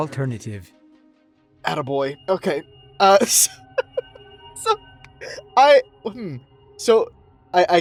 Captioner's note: laughs